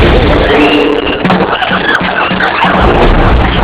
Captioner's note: monkeys hooting, shrieking